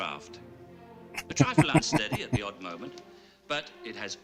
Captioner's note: laughing